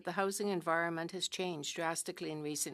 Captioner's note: speaking french